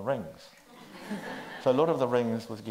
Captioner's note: audience laughs